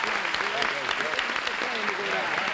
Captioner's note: applause